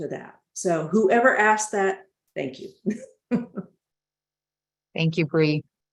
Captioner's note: chuckles